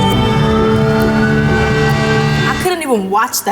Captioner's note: sirens blaring